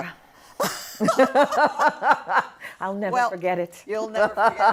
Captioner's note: laughter